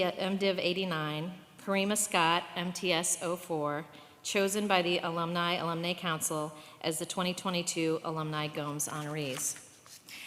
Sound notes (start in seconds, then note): none